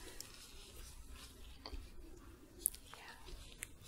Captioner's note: shuffling